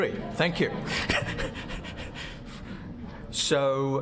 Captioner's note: laughs